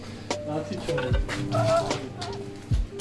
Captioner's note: dying of laughter